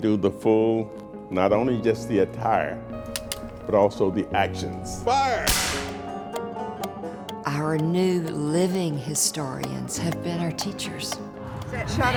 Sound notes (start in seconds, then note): 5.3 gun fires